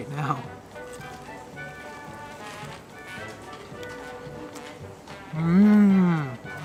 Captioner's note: crunch